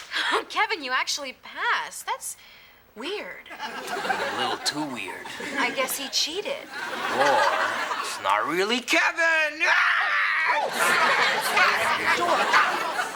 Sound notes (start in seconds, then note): 0.3 scoffs; 9.6 shrieks